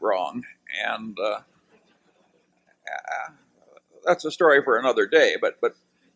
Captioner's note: laughter